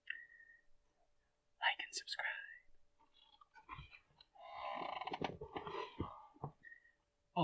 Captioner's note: whispering